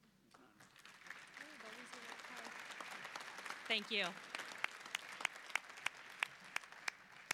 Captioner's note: applause